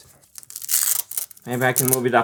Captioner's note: ripping noises